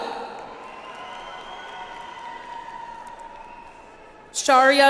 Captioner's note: audience applauds